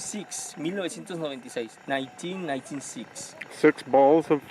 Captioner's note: speaks in foreign language